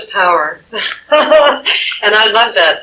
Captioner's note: laughing